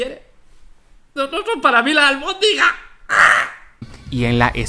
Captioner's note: he cries falsely